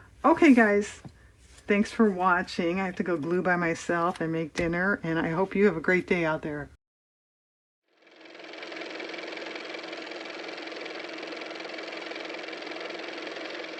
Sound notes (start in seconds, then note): 10.6 car motor